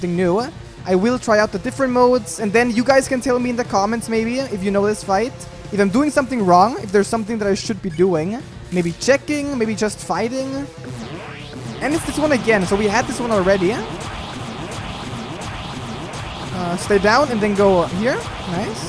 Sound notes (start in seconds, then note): none